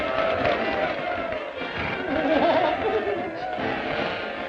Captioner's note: all cheering